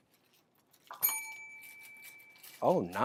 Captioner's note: bell rings, paper crinkles